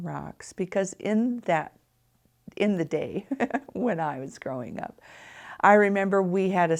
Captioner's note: chuckles